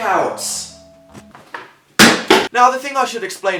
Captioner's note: drops scissors